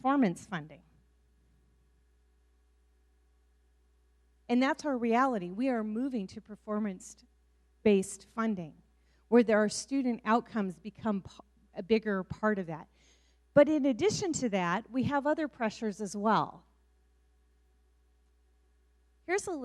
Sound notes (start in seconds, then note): none